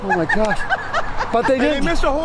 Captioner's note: laughing